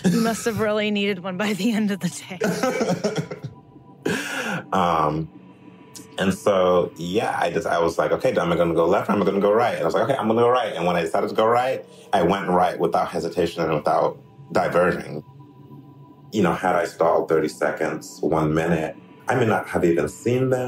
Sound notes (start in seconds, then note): 2.4 laughs